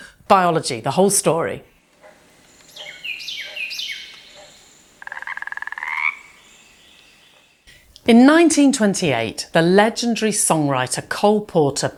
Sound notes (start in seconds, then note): 1.6 birds chirping; 5.3 frogs croaking